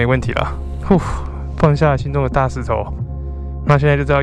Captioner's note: exhale